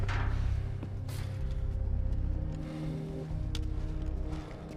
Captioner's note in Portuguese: respirando pesado